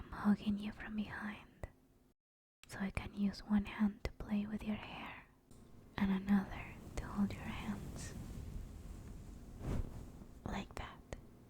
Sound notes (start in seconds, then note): 8.5 soft brushing sound and thud